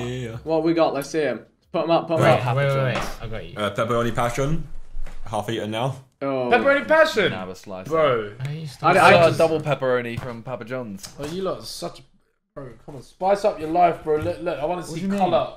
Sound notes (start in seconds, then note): none